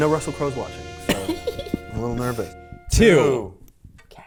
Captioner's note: chuckling